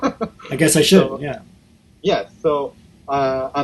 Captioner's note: laughs